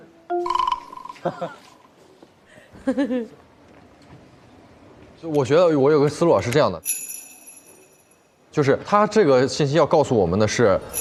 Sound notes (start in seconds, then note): 0.4 laughter; 1.2 the investigators burst out laughing